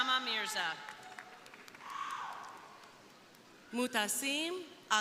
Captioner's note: crowd applauding; crowd cheering